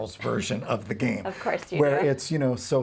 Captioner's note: laughs